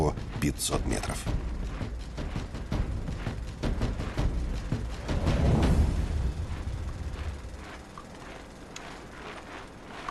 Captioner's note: crunch of snow